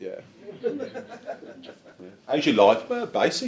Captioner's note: audience chuckles